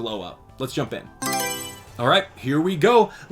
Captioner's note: Mario Selection Sound